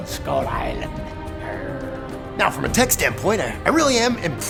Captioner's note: pirate growl